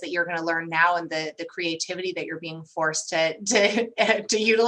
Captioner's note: laughter